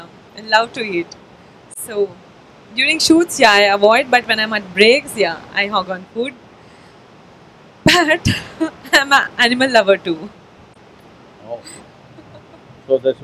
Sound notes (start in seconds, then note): 7.9 laughs; 12.1 laughter